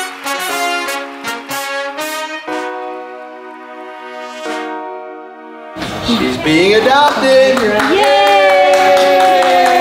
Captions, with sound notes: (triumphant music continues) She's being adopted. (group applauds) Yay. - Yay.